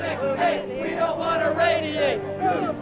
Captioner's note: chants